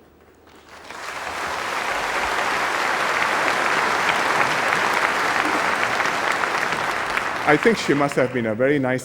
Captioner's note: applause